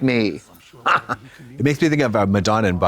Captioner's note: Katya guffaws